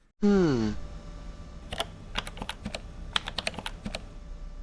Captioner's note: typing on a keyboard